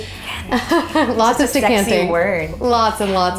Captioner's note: laughing